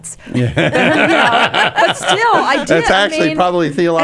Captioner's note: laughing